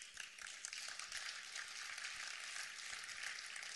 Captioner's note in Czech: potlesk